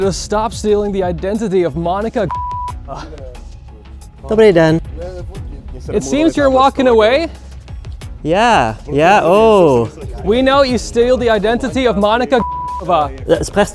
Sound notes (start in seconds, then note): 4.8 friend speaking in Czech